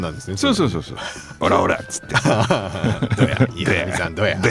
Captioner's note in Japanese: 笑い